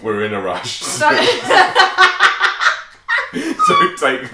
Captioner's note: laughter